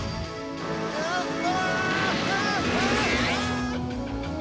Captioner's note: exclaiming